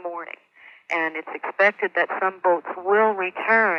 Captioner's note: archival news audio